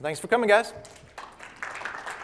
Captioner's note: applause